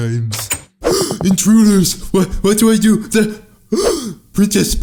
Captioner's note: laughs; door opens; gasps